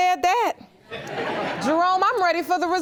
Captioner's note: audience laughing